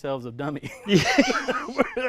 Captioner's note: laughing